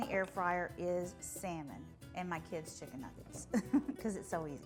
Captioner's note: laughing